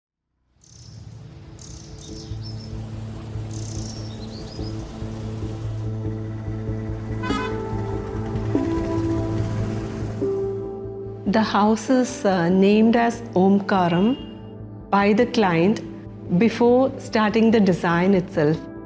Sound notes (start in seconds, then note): 0.6 birds chirping; 0.7 wind rustling; 7.2 traffic noise